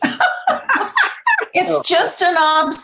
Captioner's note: laughter